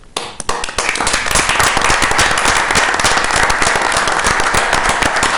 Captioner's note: everyone applauding